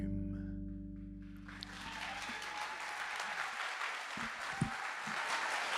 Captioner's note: audience cheers and applauds